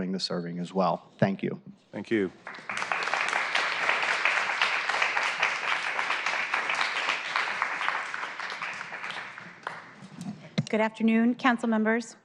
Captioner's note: applause